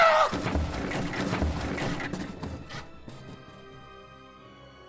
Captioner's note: screams